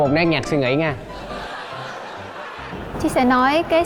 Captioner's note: laughing